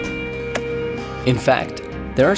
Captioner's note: smack